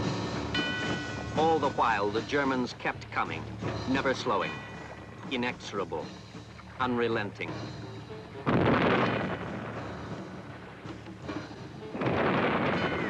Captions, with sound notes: All the while the Germans kept coming, never slowing, inexorable, unrelenting. (explosions)